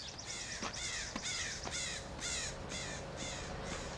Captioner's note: crows cawing